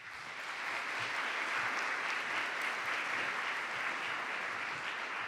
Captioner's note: applause